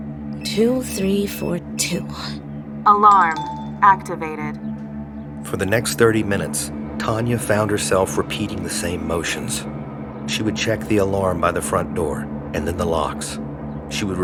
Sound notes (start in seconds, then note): 3.7 automated voice